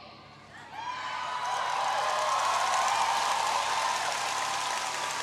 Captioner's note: audience cheering